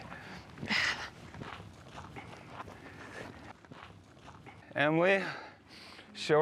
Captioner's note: footsteps